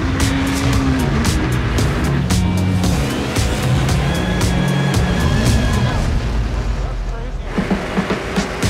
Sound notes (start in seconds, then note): 0.0 upbeat music; 1.8 engine revs; 4.3 upbeat music